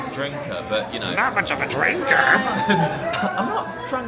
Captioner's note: in cartoonish accent